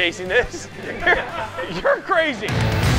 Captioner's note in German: lachen